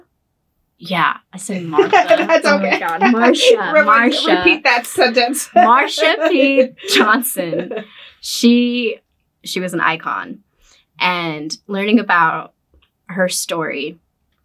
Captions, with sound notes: Marsha? Yeah. I said Martha. That's okay. Oh my god. (both laughing) Marsha. Repeat that sentence. Marsha P. Johnson, she was an icon and learning about her story,